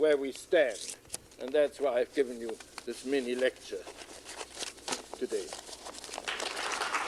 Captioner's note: applause